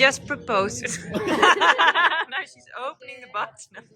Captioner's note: laughing